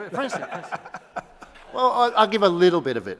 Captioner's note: laughs